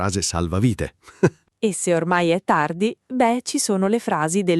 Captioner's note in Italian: Haha